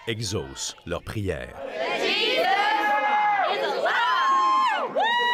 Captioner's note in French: cris et applaudissements